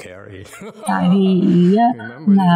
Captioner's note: laughter